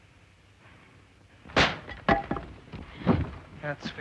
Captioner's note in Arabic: صوت طقطقة عالي; ضربة قوية